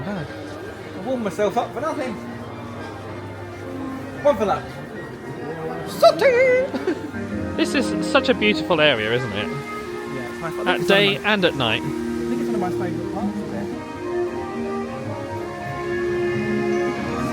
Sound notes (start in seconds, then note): 6.1 chuckles; 14.5 gentle music